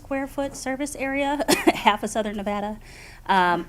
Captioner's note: laughs